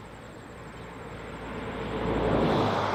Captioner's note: birds chirping; car roars